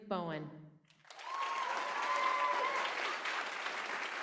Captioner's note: applause